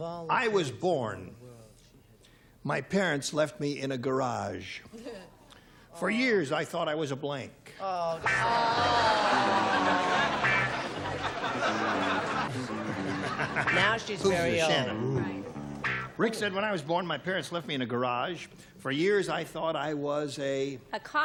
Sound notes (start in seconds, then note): 8.4 laughter